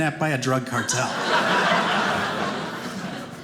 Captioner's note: audience laughing